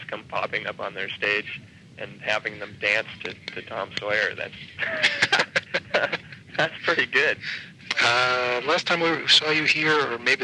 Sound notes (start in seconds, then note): 4.7 laughing